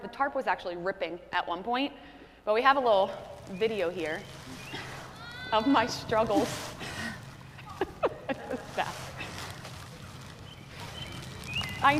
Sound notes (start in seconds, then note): 3.4 birds singing; 4.3 grunting; 6.8 grunting; 7.5 laughing